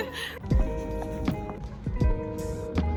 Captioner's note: laughs; chill music